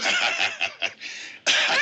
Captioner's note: laughs